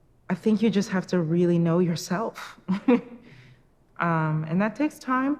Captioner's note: chuckles